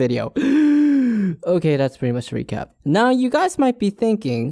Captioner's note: gasp